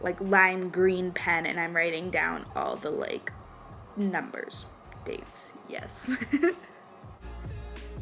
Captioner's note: laughs